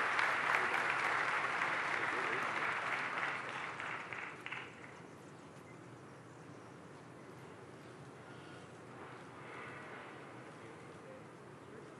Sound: applause

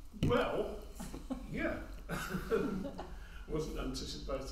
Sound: laughs

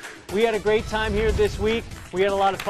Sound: applause

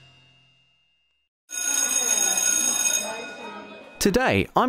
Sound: bell ringing over student chattering

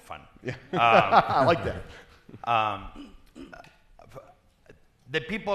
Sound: panelists laughing

